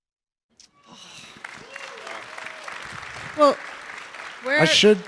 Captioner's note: audience claps